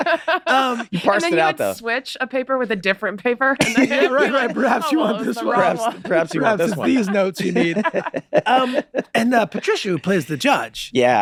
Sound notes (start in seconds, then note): 0.0 all laughing; 4.1 laughing; 8.2 all laughing